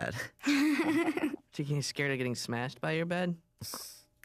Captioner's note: laughs